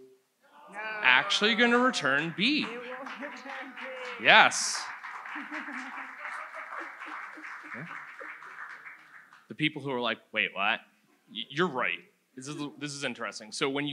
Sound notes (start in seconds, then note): 5.9 audience applauds